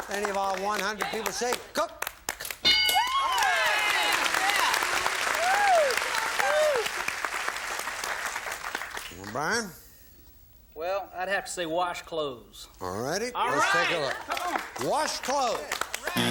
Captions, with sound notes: -All right, yeah! -Any of our 100 people say cook? (bell) (applause) Brian? -Well, I'd have to say wash clothes. -All righty, let's take a look.